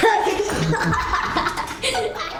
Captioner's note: laughter